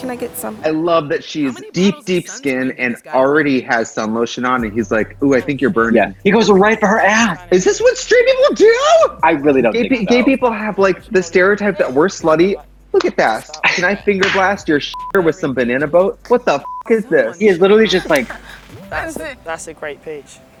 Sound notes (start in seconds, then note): 14.9 beep; 15.6 upbeat music; 16.6 beep; 16.8 laughs